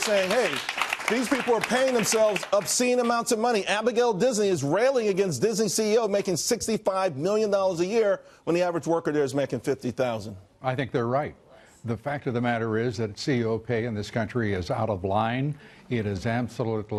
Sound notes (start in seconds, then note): 3.2 applause